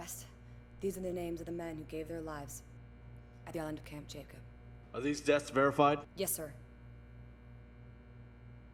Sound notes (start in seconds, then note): 4.2 voiceover